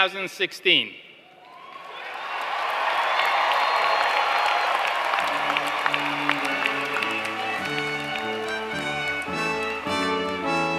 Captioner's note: applause